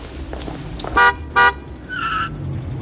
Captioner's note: horn